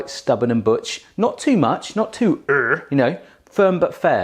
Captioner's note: grunts